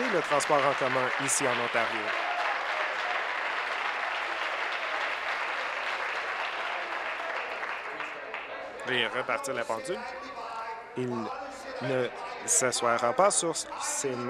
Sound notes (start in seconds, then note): 1.6 applause